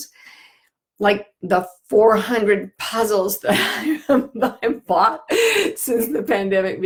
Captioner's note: laughing